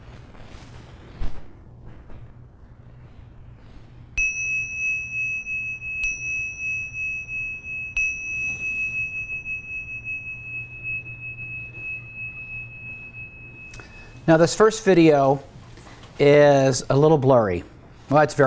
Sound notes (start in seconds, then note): 3.7 bell ringing